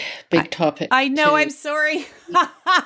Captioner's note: laughs